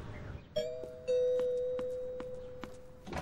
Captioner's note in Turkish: kapı zili çalıyor